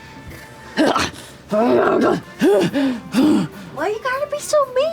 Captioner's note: growling